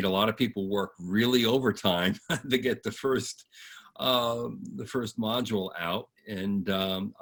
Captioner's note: laughs